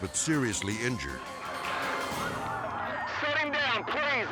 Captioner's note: sirens blaring